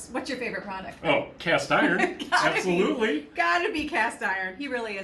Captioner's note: laughs